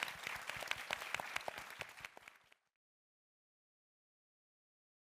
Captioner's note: audience applauding